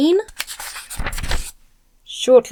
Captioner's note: page rifles